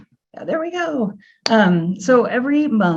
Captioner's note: claps hands